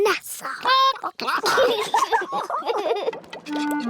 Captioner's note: children giggle; chickens chatter